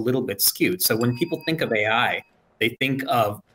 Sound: bell dings

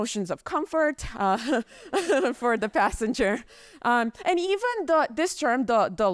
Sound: chuckles

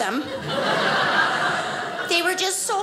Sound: audience laughing

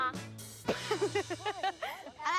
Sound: laughs

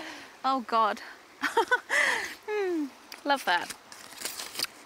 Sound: laughs

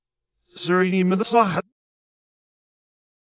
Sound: backwards talking

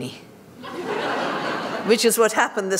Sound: laughter

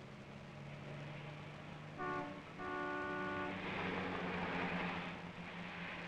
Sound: sound of car horns

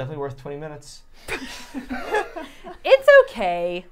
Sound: all laughing

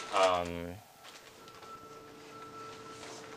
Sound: alarm beeps

